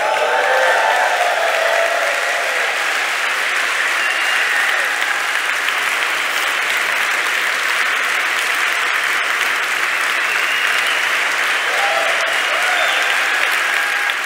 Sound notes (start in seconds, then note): 0.0 cheering and Applause; 4.9 applause